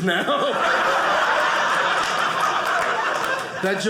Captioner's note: audience laughing